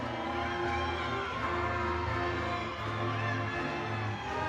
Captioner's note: audience cheering